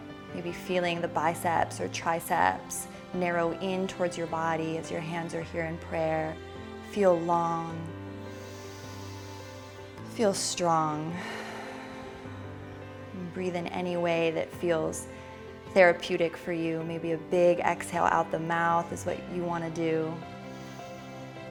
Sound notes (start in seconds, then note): 8.2 inhaling; 11.0 exhaling